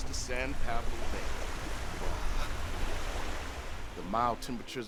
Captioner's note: waves crushing